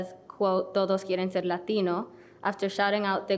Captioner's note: speaking foreign language